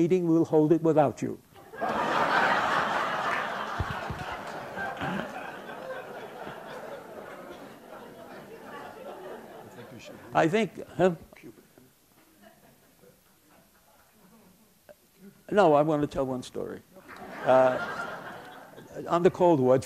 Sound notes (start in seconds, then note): 1.6 laughter